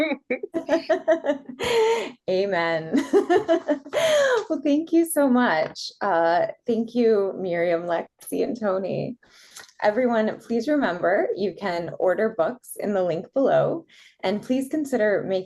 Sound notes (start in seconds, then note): 0.0 laugh; 2.9 laughter